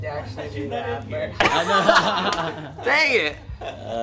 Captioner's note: laughing